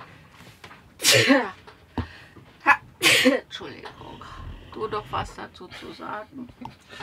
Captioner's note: sneeze